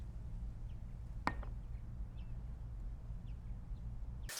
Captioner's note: glass taps